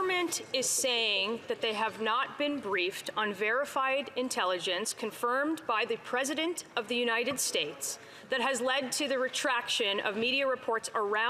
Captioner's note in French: voix de l'interprète